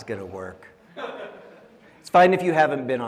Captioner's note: audience laughing